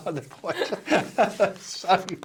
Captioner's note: both laughing